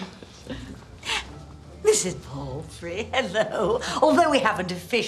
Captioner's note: laughing